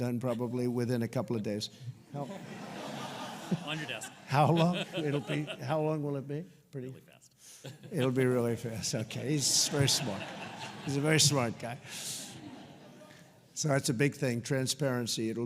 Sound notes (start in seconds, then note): 2.1 laughter; 9.4 laughter; 9.6 laughs